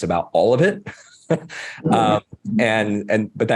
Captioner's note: laughing